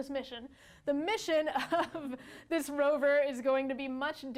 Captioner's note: laughs